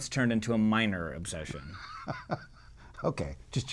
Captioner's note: laughs